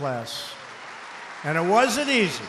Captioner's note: applause